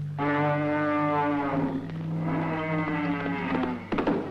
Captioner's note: bull roaring; suspenseful orchestral music